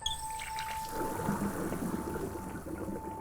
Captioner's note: water running